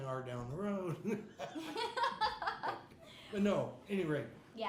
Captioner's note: laughing